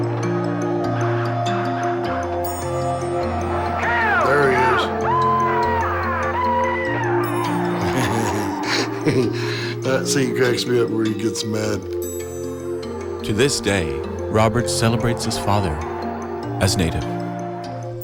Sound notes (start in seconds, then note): 5.2 battle cries; 7.7 laughing